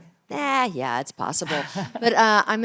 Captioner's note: laughter